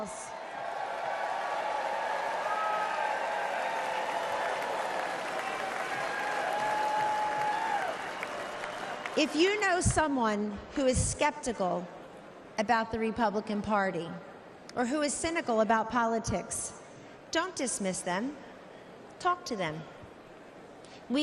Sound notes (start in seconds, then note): 5.4 cheers and applause